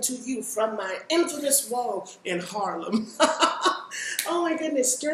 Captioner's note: laughs